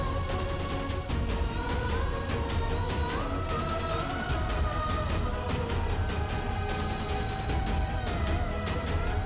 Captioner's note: emotive vocalisation